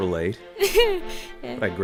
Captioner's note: nervous lesbian laughter